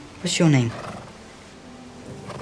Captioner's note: horse neighs